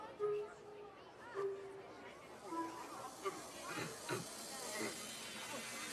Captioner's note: gagging